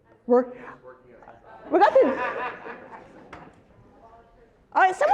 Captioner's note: laugh